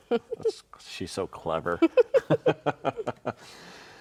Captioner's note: both laughing